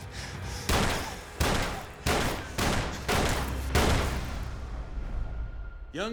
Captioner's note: gunshots